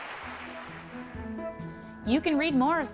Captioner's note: applause